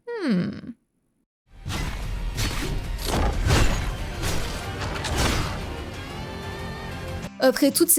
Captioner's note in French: bruits de combat répétitifs